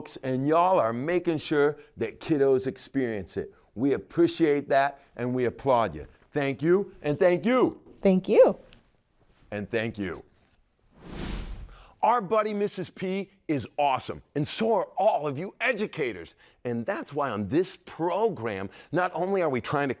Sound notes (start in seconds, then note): 10.9 logo whooshing